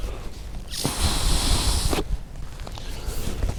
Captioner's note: breath